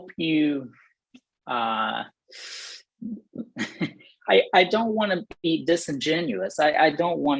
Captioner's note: laughter